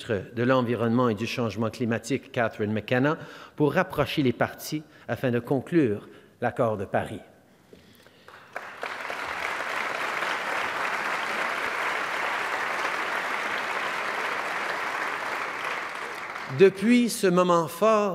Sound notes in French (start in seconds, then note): 11.8 Applaudissements